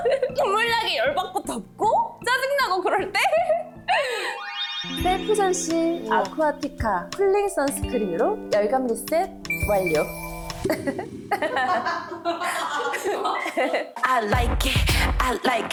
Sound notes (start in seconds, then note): 4.2 soothing sound effect; 9.5 world's calmest sound effect